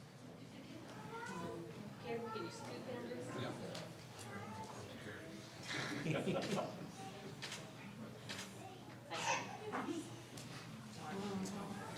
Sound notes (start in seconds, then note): 5.9 people mumbling; 6.0 laughing